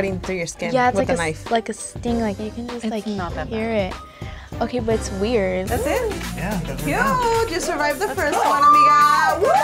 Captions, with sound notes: - Like they're cutting through your skin with a knife. - Yeah, it's like a sting. You can just hear it. - It's not that bad. - Okay, but it's weird! - That's it? (women whooping) - Yeah, guess we're done. - Cute, you survived the first one, amiga!